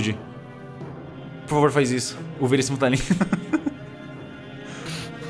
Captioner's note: laugh